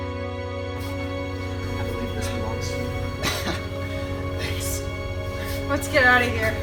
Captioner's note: chuckles